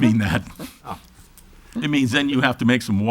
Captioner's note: laughs